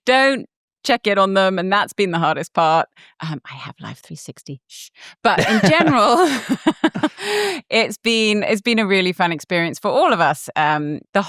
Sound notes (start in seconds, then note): 4.6 shushes; 5.3 both laugh